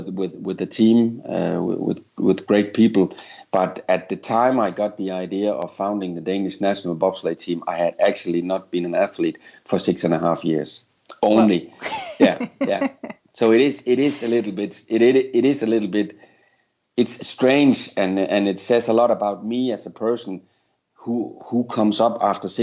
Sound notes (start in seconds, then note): 13.4 chuckles